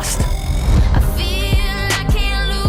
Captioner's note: whirring